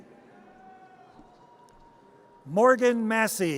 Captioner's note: audience cheers